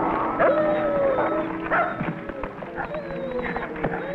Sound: whimpers

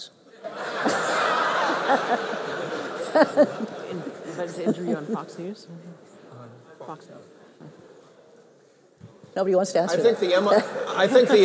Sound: laughter

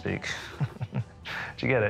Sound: laughs

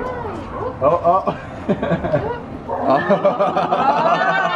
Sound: laughs

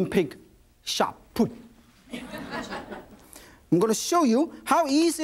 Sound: audience laughs

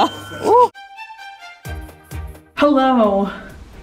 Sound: glasses clink

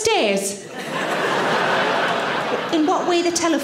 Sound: audience laughing

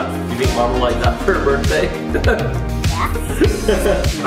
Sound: laughs

